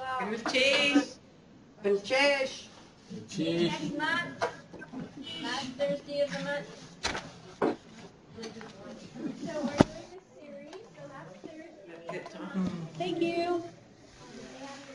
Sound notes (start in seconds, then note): 0.1 non-english speech